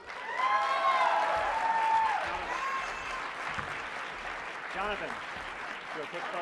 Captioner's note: cheers and applause